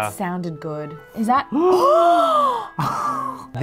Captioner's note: both gasping